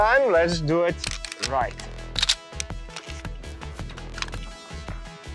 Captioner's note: gun cocking